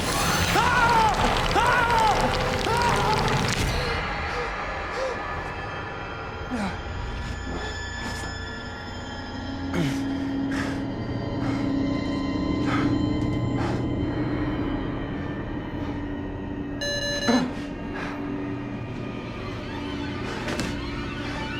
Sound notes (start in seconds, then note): 0.0 screams; 16.8 beeping sound; 18.4 suspenseful music